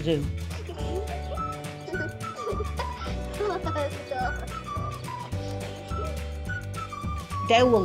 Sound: giggling children

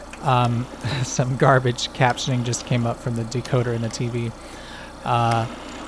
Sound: laughs

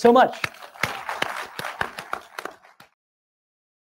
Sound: applause

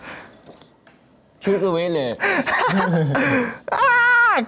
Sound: hehehe

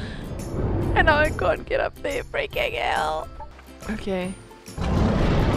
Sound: Wild Rex roars

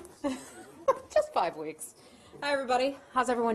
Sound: laughter

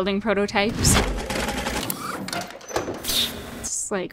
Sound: different mechanisms clicking

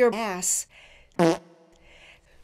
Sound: fart

